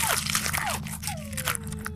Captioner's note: Squelch; whimpering